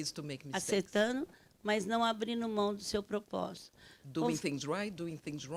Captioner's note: speaking Portuguese